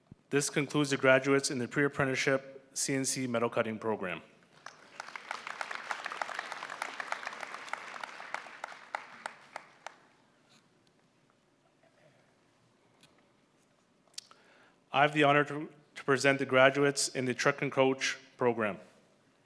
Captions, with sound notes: This concludes the graduates in the Pre-Apprenticeship CNC Metal Cutting program. [Applause] I have the honour to present the graduates in the Truck and Coach program.